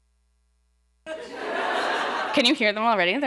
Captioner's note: laughter